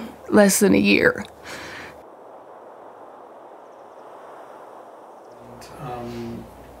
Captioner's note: soft Breeze